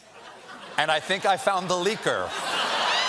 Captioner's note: laughter